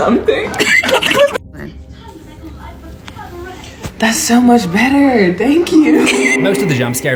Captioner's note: giggling